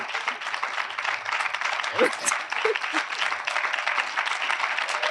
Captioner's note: audience continue applauding